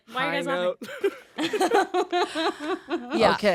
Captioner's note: all laughing